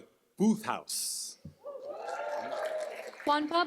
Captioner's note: cheers, applause